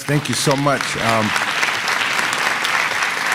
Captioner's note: applause